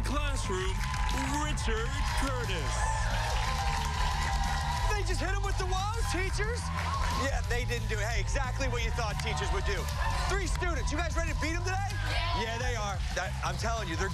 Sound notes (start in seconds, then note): 9.1 cheers and applause